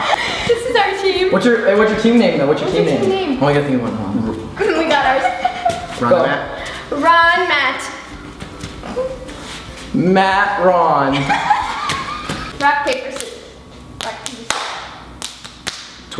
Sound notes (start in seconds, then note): 0.0 laughs; 4.7 giggles; 11.1 laughs